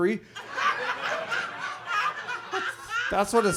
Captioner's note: audience laughs